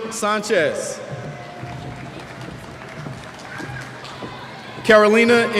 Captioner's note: cheers